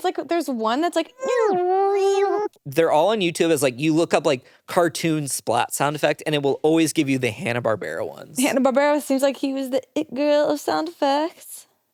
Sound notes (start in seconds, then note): 1.1 whining; 1.2 groan tube whining